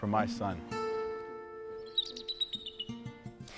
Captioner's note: bird chirps